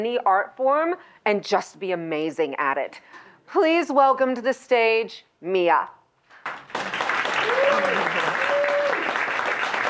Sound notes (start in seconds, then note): 6.4 applause